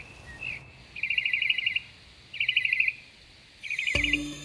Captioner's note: bird sings